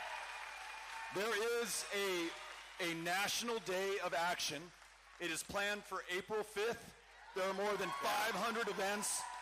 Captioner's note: cheering